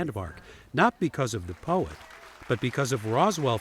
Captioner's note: crowd clapping